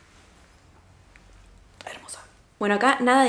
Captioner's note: whispering